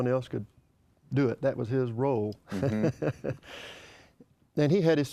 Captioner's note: laughs